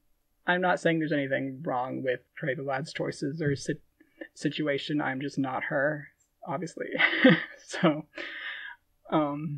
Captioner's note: laughing